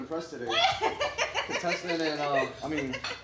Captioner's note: laughing